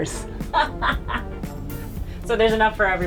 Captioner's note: laughing